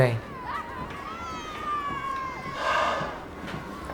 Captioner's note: fairground ambience